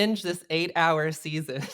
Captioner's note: laughs